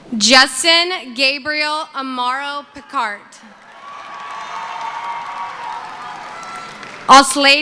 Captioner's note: cheering